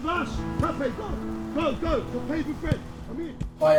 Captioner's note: indistinct chatter